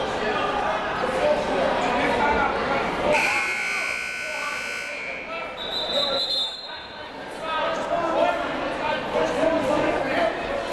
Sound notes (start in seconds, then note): 3.1 buzzer goes off; 3.1 whistle blows; 7.9 crowd talking